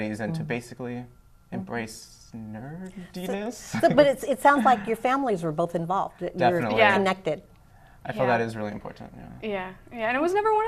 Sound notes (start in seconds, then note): 3.3 laughing